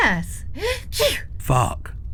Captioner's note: sneezes